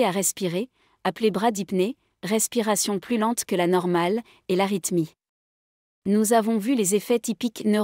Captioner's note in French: respiration plus lente que la normale